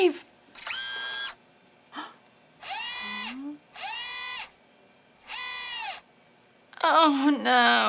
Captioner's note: robot noises